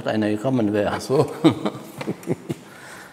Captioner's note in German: lachend